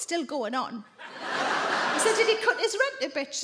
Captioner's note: audience laugh